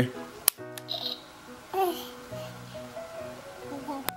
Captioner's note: camera clicks